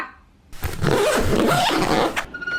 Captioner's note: zipping of luggage